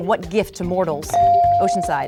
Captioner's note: bell dinging